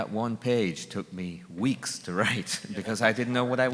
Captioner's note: laughs